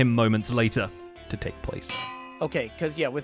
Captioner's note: anvil clang